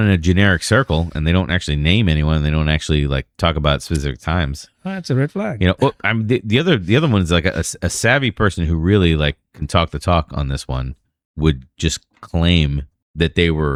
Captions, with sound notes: generic circle and don't actually name anyone, don't actually like talk about specific times [UH] That's red flag. know, I'm the other. other one is like a savvy person who really like can talk the talk on this one would just claim that they were